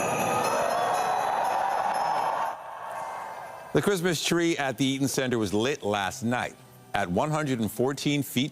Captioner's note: applause